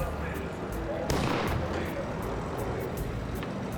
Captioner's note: car backfires